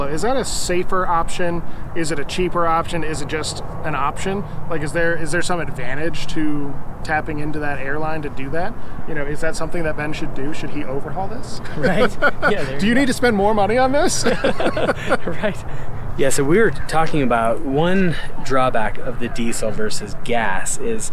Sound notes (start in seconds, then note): 11.6 laughs; 14.0 laughs